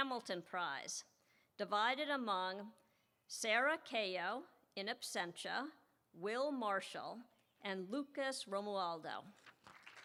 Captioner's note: applause